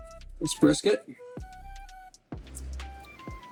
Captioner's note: crackling